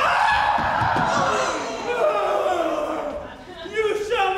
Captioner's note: group groans